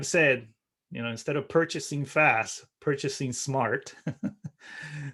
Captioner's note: laughing